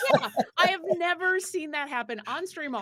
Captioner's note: actors laughing